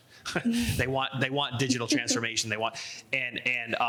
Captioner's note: laughs